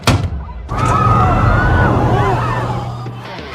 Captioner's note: people exclaiming; alarm blaring; dramatic music playing